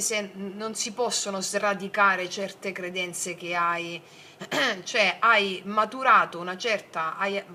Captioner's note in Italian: schiarire la voce